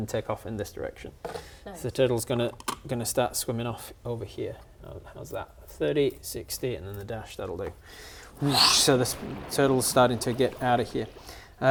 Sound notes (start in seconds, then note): 8.3 whoosh